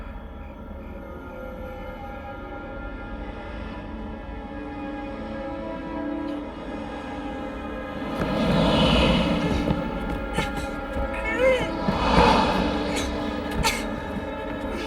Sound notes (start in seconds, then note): 10.0 grunting